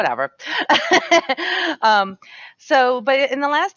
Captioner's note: laughs